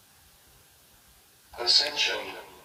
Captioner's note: saber noises